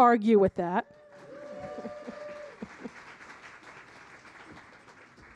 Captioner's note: audience applauding